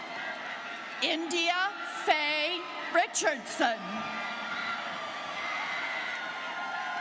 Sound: students cheering

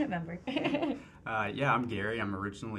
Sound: woman laughs

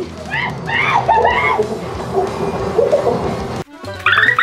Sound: gorillas screeching

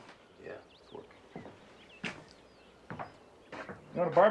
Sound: birds chirping

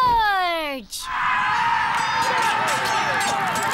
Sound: army battalion screaming

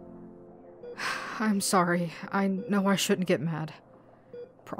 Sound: sighs

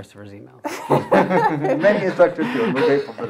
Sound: laughter

